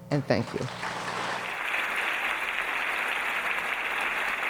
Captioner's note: audience applauding